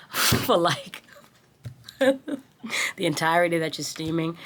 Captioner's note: laughing